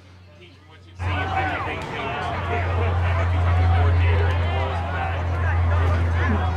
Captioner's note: crowd chattering drowns out interviewer